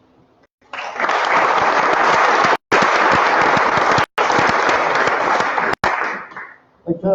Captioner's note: applause